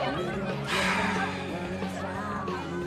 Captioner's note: SlGHS